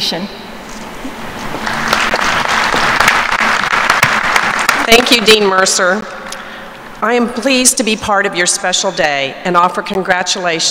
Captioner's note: applause